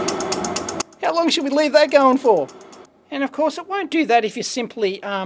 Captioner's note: clicking sound and whirring sound disappear